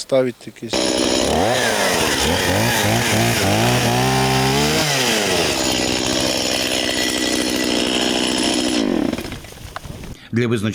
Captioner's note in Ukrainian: звук бензопили